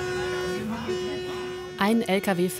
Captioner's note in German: Hupen